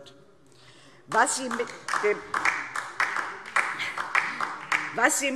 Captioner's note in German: Beifall DIE LINKE